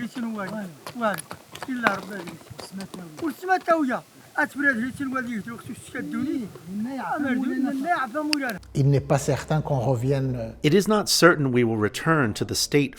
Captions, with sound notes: [speaking French] It is not certain we will return to the state